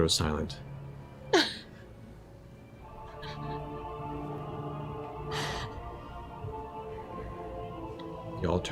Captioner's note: sobbing